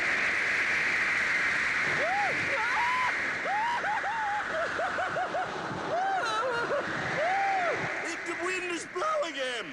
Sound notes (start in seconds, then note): 2.0 screeching; 3.2 gasping, sobbing